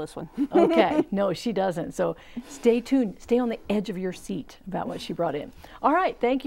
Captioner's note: laughing